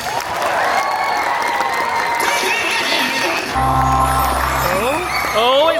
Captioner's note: audience applauding and cheering